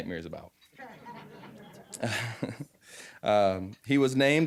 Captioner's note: audience laughing